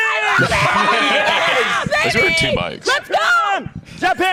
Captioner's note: laughing